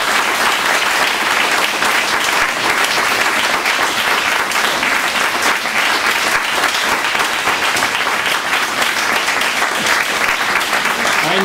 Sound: clapping

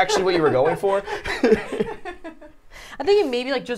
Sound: all laugh

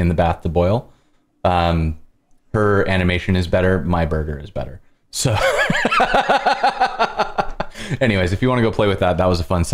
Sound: laughter

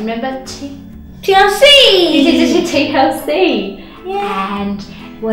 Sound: laughs

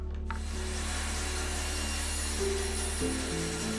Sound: saw vibrating

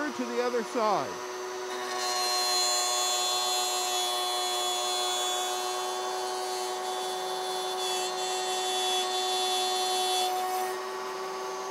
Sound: saw revving

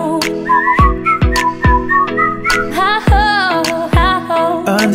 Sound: whistle

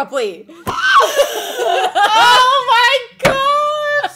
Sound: women squealing

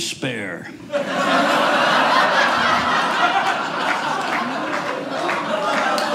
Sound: audience laughing; audience applauding

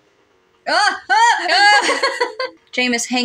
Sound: laugh

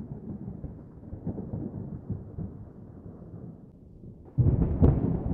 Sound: thunder

